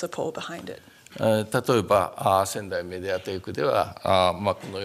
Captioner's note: speaking japanese